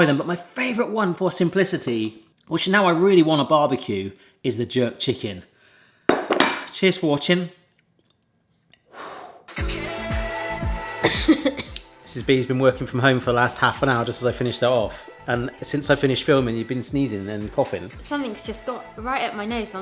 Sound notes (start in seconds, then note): 8.9 puffing; 11.0 coughing